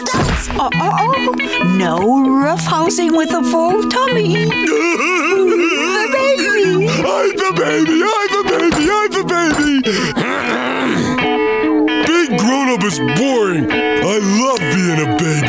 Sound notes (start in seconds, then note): 4.2 laughing; 8.4 clearing throat